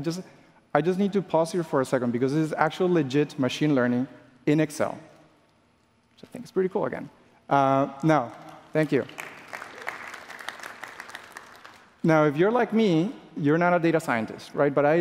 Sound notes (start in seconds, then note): 8.2 applause